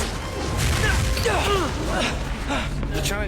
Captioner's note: grunting